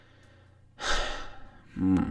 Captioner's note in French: soupirs